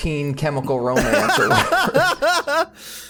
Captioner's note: laughs